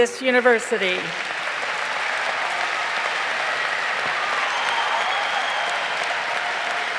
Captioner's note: crowd applauding